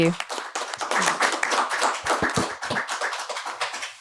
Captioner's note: applause